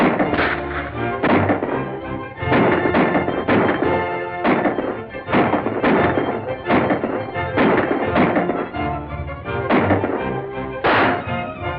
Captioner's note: gunshots firing